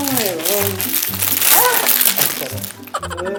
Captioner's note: moans in C major